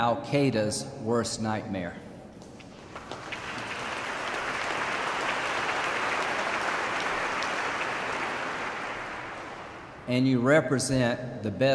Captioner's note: applause